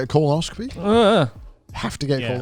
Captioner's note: wails